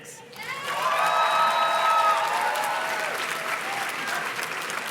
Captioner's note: audience cheers and claps